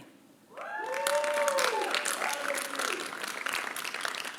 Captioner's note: applause